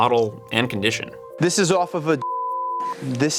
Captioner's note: beep